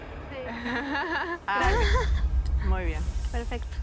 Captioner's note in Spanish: ríe